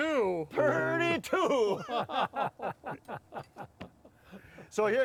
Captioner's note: laughing